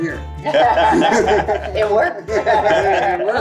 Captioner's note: group laughs